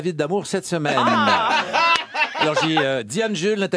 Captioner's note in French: rires